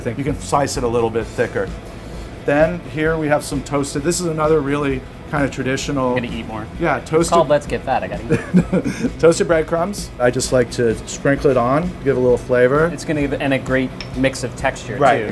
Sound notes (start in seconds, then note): 8.3 laughs